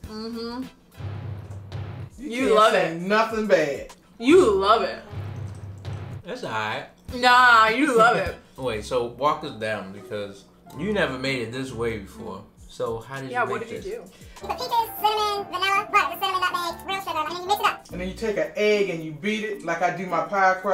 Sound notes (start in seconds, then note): 0.9 dramatic bangs; 5.0 suspenseful bangs; 14.4 high-pitched voice; 17.9 normal voice